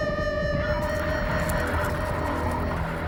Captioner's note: crunch of grass